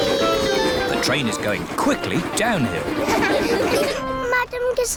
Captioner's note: laughter